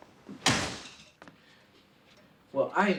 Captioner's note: door slams